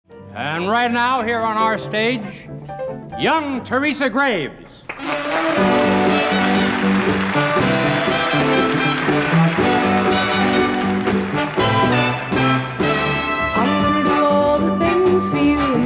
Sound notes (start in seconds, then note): 4.9 audience applauding; 4.9 upbeat music